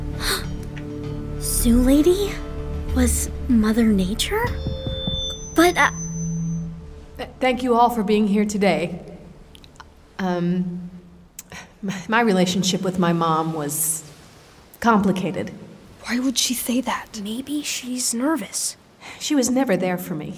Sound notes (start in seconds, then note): 0.7 gasps; 16.2 whispering